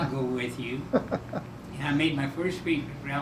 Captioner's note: chuckling